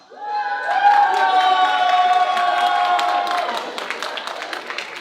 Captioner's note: audience applauding